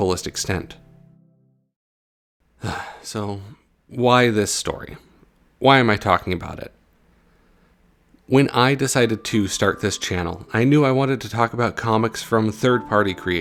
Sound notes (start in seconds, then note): 2.6 sigh